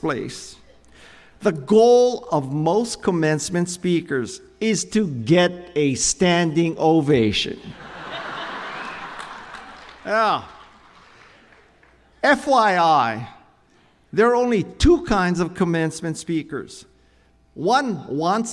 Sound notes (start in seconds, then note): 7.7 chuckles